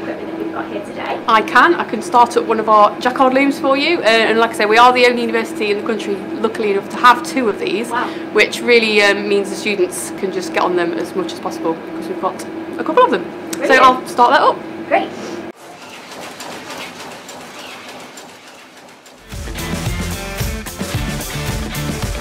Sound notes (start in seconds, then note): 15.5 machine churning; 19.2 upbeat music